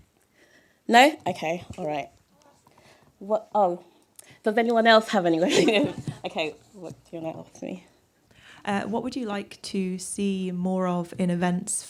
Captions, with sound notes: No. Okay. All right. - I'll ask one. - What? Oh. Does anyone else have any? [Laughter] Okay, what do you wanna ask me? - Uh, what would you like to see more of in events